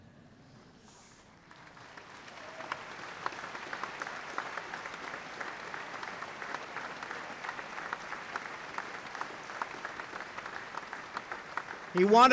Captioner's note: applause